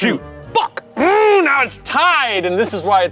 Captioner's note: grunts